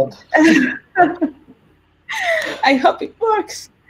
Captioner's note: laughs